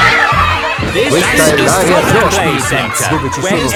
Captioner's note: loudly over shouting